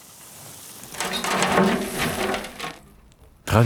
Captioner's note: rattling sound